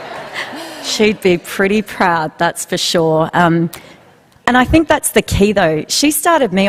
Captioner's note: laughter